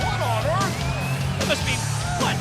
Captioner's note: crowd cheering